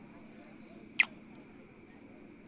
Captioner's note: kiss